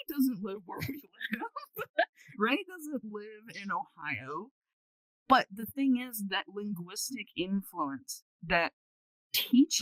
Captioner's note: laughter